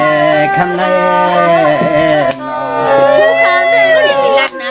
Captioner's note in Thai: ปรบมือ